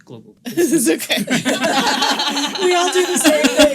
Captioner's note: all laughing